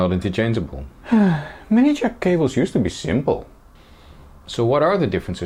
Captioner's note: sigh